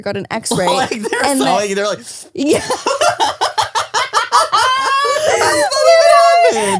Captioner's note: laughing